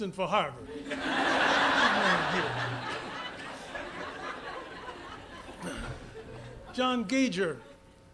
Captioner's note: laughter